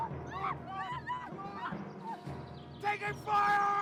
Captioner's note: girl screams